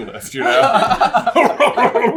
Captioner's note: laughter